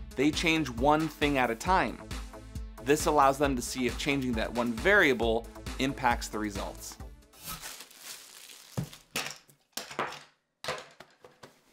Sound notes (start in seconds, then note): 7.4 shuffling noises